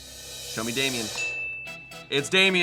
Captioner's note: bell chimes